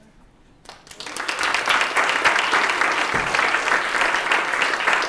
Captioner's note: applause